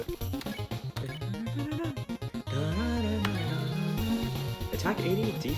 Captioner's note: more attempts to hum to song